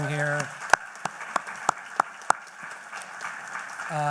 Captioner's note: applause